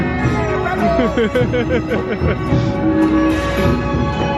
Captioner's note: laughing; upbeat celebratory music